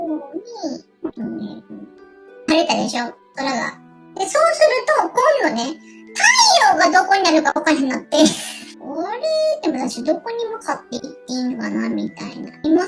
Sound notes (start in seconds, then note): 7.7 laughs